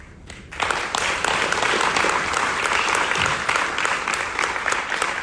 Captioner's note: audience applauding